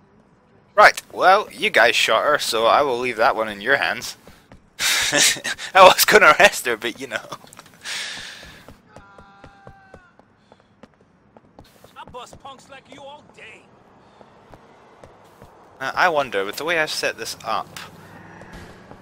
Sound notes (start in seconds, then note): 4.8 laughing